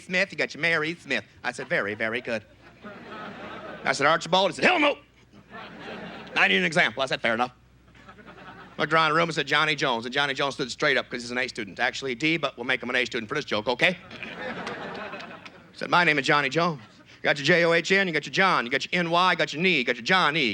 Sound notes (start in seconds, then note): 1.5 normal voice; 5.1 gruff voice; 7.3 normal voice; 15.9 southern accent